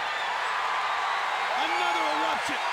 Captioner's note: audience cheering